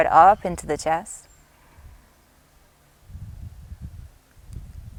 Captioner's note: inhales deeply